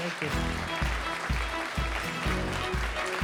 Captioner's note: audience applauding; upbeat music